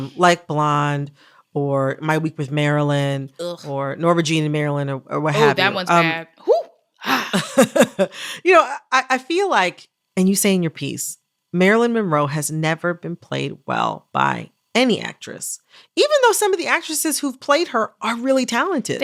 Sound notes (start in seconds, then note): 7.2 laughter